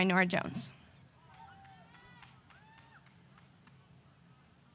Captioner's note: audience applause